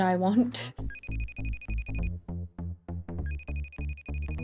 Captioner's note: phone ringing